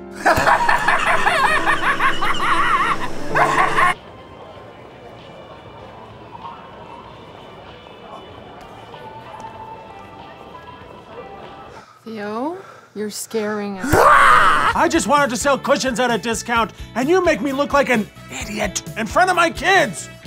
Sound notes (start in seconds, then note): 0.1 hysterical cackling; 3.8 mall ambience and music; 18.0 whispers